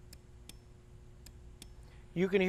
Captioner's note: clicking